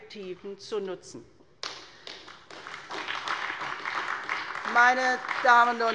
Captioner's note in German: Beifall bei der SPD